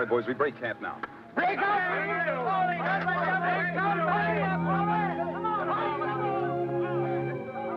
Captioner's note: men yelling; gentle somber music